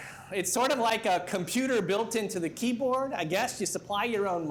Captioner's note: none